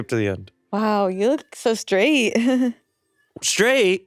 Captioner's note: chuckles